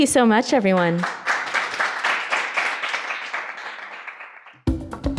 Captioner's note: audience claps; upbeat music